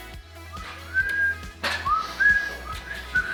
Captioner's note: whistling